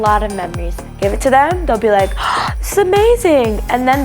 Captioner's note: gasps